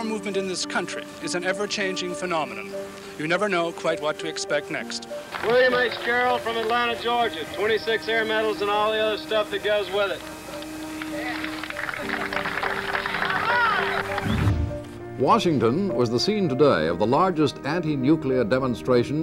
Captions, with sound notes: The anti-war movement in this country is an ever-changing phenomenon-- you never know quite what to expect next. William H Gerald from Atlanta, Georgia. 26 air medals and all the other stuff that goes with it. [cheering] Reporter:Washington was the scene today of the largest anti-nuclear demonstration